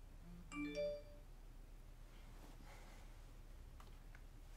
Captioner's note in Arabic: صوت صفير الهاتف